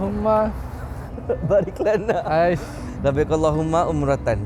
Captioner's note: laugh